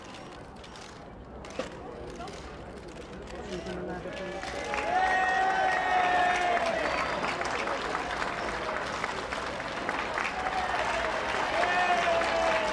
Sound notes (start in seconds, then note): 3.9 applauding; 4.2 crowd cheering